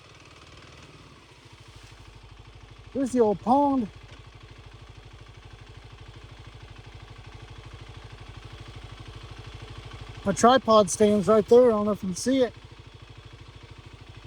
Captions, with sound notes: (motor rumbling) Here's the old pond. My tripod stands right there, I don't know if you can see it.